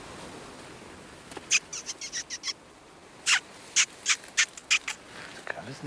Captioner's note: imitates bird call